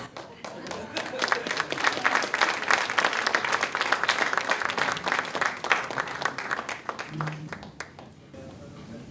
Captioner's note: more applause